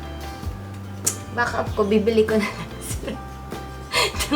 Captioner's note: laugh